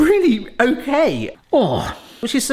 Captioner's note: groaning